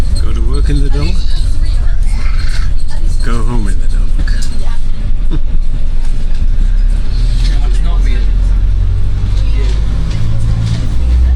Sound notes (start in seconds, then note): 6.5 bus sounds